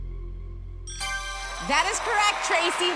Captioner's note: ding